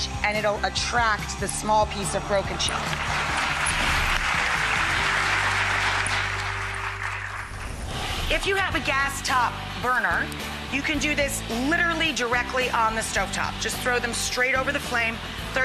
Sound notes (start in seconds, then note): 2.8 crowd applauds